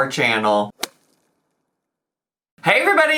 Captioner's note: logo smacks